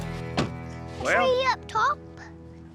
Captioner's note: car door shuts